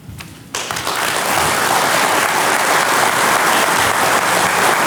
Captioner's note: audience applauding